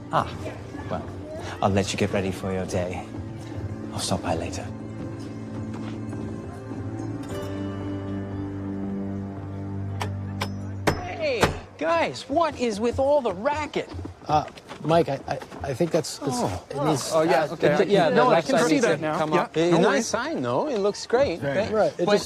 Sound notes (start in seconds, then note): 10.8 hammering